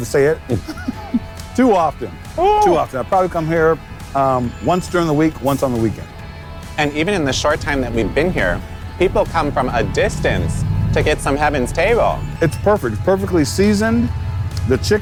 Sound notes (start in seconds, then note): 3.6 chuckles